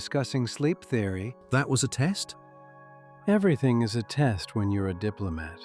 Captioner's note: matter-of-factly